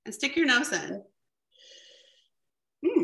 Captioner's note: takes a sniff